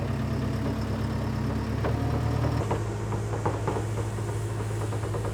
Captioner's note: engine humming